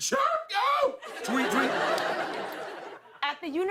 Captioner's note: laughter